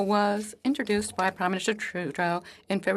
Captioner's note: speaking French